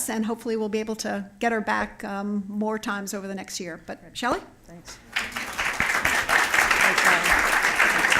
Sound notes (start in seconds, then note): 5.1 applause